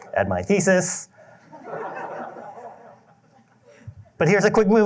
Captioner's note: laughter